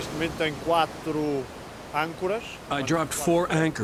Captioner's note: speaking in foreign language